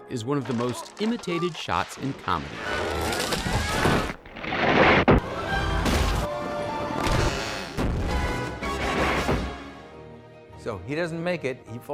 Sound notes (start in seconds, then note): 3.3 houses crashing